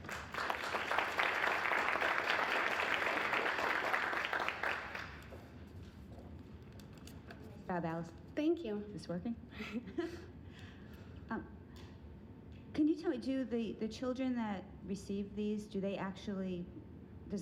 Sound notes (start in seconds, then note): 0.0 applause; 9.6 both laughing